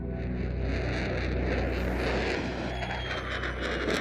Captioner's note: jet engines roaring